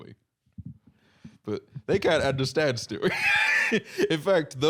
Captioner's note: laughs